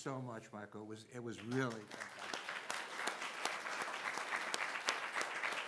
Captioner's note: audience applauding